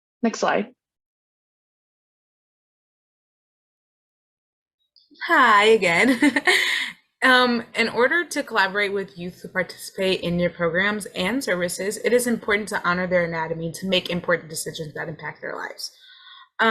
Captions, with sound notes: Next slide. - Hi, again. (laughs) In order to collaborate with youth who participate in your programs and services, it is important to honor their autonomy to make important decisions that impact their lives.